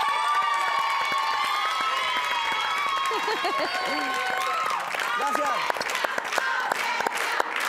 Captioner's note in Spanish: Gritos y exclamaciones